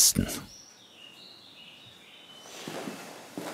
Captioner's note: birdsong